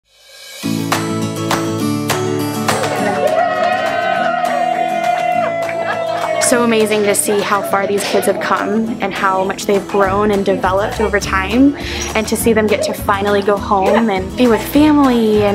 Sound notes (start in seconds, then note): 0.0 upbeat cheerful music begins; 2.6 people cheering